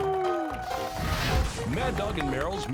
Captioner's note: jaunty piano outro music; branding iron sizzles; flames roar